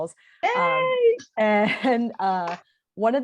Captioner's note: laughs